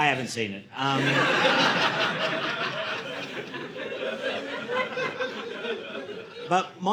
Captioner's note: audience laughing